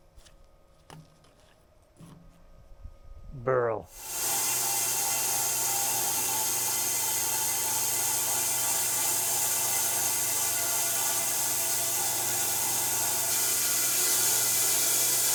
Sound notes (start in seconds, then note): 4.0 machinery whirring